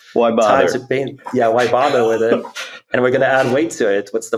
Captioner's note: laughs